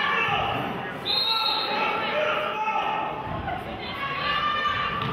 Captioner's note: whistle blows